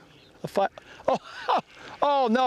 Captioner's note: laughter